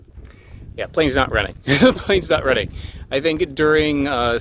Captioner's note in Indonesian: tertawa